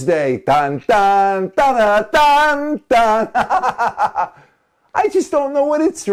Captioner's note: hahahaha